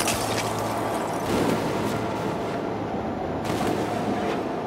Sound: distant explosion

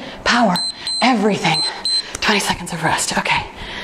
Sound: timer beeps

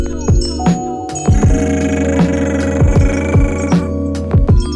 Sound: brrrrrrrrrrt

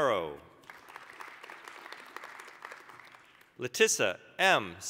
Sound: applause

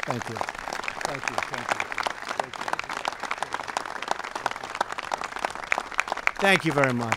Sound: applause

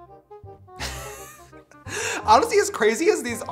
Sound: laughs

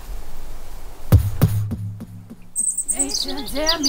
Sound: thump thump

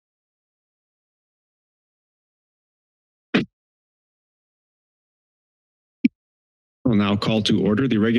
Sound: silence

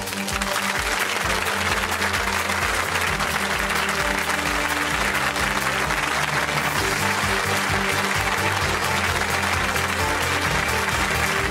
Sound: applause

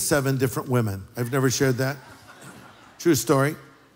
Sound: laughter

